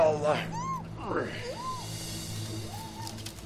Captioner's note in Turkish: İnleme sesleri